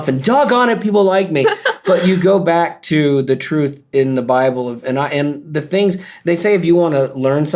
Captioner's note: laughter